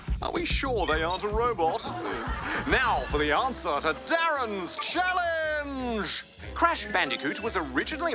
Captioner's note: audience chuckle